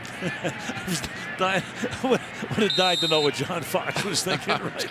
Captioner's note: laughs